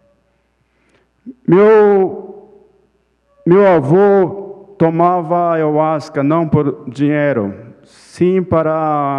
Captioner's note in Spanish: Ponente habla en portugués